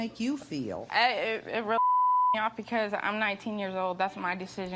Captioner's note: beeps